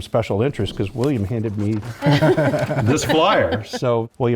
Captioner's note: laugh